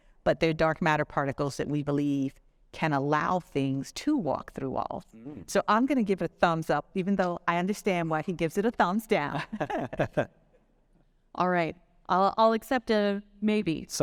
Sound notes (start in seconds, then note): 9.4 all chuckling